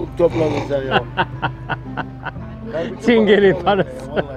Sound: speaks Turkish; laughs; speaks Turkish

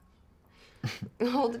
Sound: chuckles

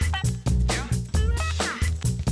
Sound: laugh

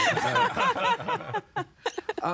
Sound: everyone laughing

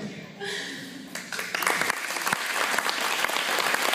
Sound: applause

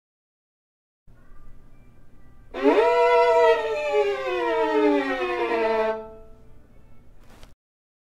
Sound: wail sound

